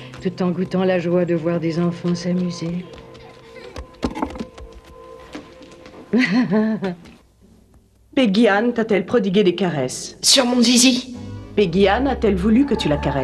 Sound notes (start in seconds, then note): 6.1 laughs